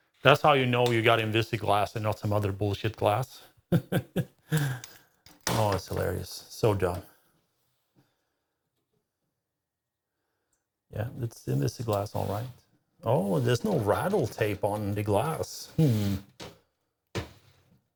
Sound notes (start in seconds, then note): 3.7 laughing